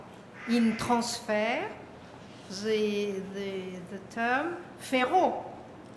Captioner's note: french